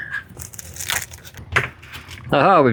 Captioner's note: crispy velcro sounds